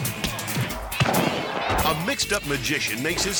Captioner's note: mascots thudding